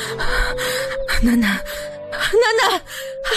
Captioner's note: inaudible sobbing